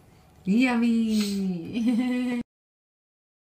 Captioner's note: giggles